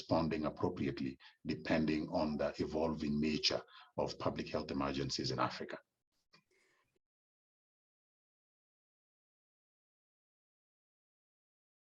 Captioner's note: sound missing for 13s